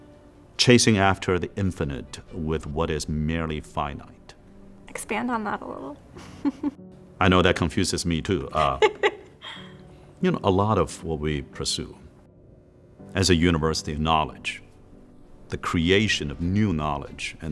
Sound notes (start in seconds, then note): 8.5 host laughs